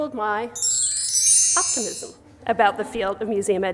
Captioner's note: chime